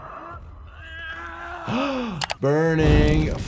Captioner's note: Obiwan screaming